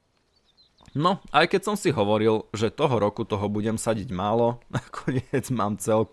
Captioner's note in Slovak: smiech